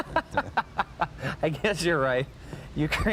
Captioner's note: laughing